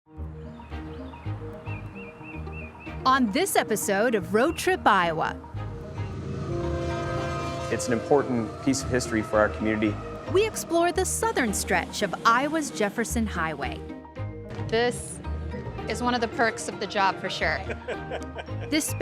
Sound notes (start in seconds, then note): 6.5 whistle blows; 14.5 laughs